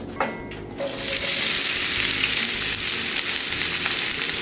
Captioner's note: onions sizzling